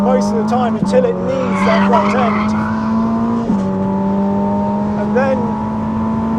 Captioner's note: engine rumbles